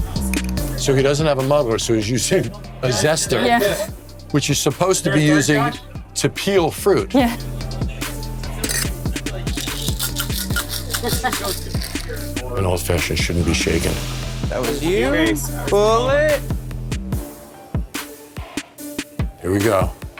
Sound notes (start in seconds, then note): 14.6 chatter; 17.1 upbeat music